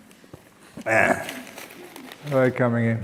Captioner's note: laughs